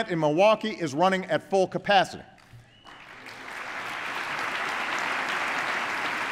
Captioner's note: applause